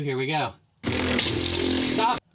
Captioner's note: loud whirring; splashing